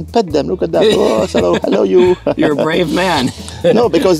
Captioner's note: laughs